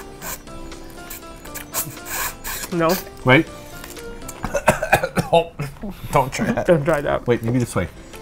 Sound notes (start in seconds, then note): 4.4 coughs